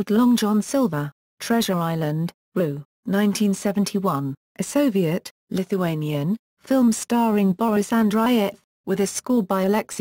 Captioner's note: Lithuanian